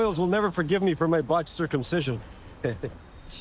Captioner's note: laughing